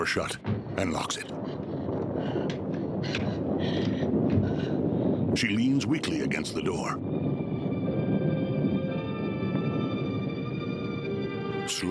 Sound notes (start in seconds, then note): 1.4 Barbra panting; 2.7 thunder rolling; 7.3 eerie music